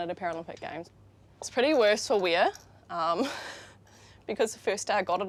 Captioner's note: chuckles